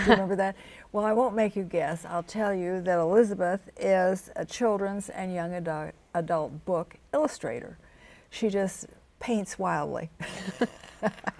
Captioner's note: chuckles